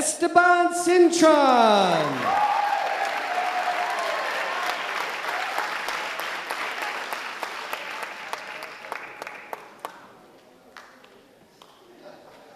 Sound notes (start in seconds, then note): 1.8 audience applauding and cheering